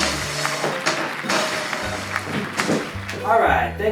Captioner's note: applause